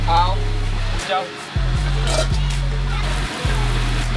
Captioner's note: woman speaking Mandarin; man speaking mandarin